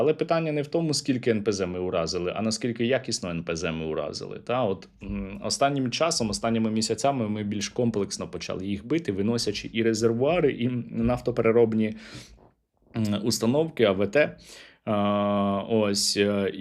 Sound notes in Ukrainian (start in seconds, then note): 12.0 сопіння